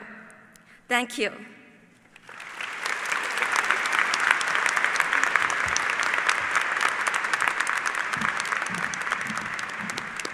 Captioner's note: applause